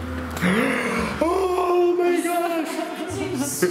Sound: gasps

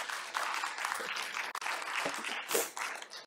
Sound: applause

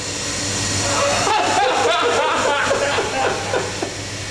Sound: laughing loudly

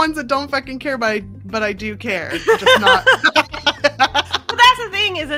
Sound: both laugh

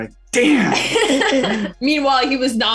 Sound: laughing

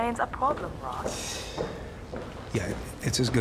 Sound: ross sighs

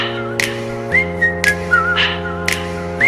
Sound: back to the whistling

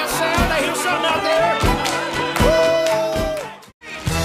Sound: cheers

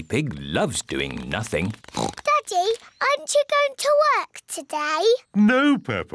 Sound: oinks

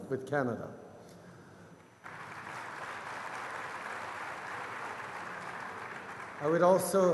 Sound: applause

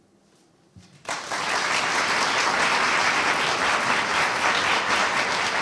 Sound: audience applauding

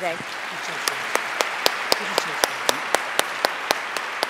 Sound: applause

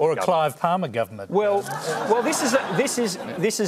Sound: laughter

